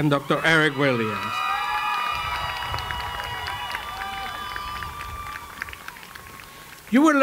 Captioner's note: cheering and Applause